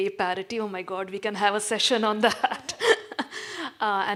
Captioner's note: laughs